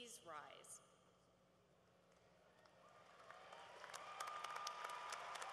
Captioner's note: cheering